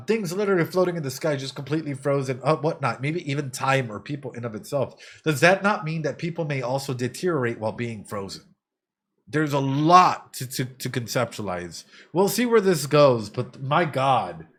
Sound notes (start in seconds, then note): none